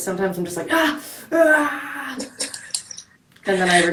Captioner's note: screaming